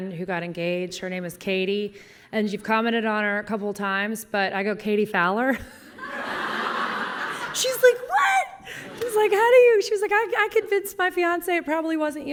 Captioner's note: laughter